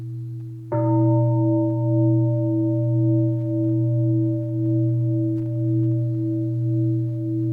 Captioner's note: deep bell sounds